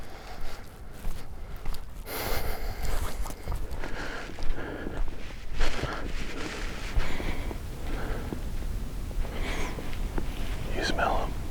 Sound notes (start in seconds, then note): 7.0 sniffs